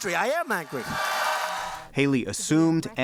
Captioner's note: cheering and applause